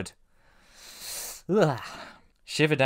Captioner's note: shudders; sucks air through teeth